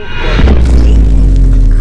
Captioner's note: booom!